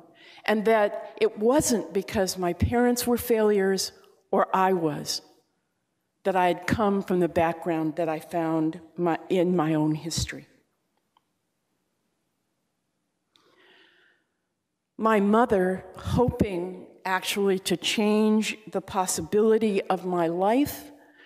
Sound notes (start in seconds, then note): none